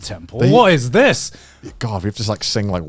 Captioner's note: chuckling